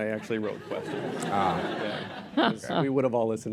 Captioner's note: laughter